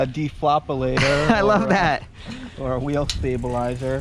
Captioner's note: laughing